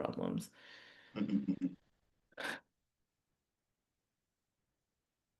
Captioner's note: chuckling